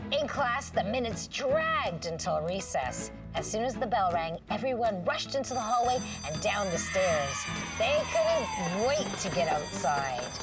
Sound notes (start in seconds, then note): 5.4 bell ringing, kids cheering